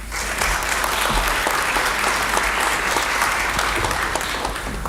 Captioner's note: applause